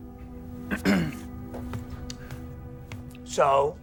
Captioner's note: clears throat